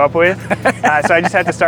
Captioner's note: laughs